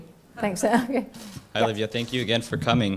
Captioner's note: laugh